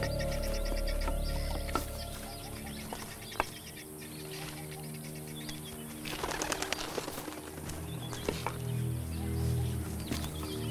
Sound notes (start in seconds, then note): 5.2 Wings Flapping